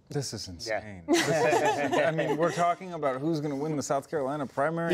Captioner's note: laughter